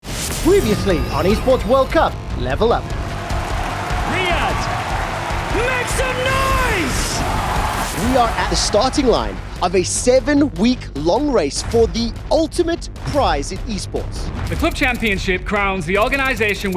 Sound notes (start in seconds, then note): 2.8 crowd cheering, applauding